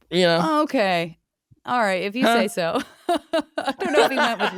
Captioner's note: chuckles